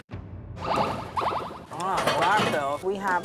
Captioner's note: siren